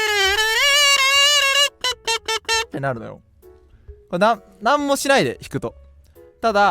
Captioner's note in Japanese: 叫び声